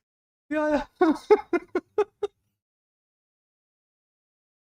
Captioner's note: Ketawa